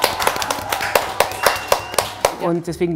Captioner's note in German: Jubel